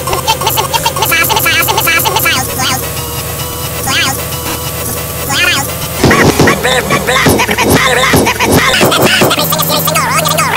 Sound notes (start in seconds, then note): 6.0 poomp